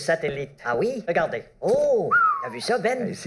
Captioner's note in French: Sifflement de Ben